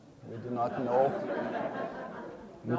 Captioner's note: audience laughing